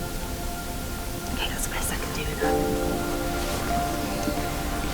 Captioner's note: whispers